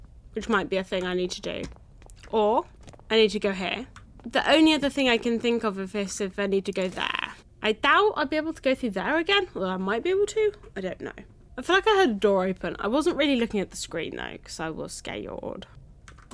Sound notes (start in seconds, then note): none